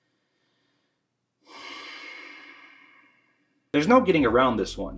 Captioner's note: frustrated sigh